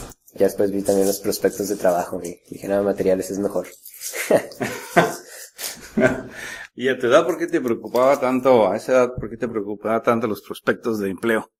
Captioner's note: laughs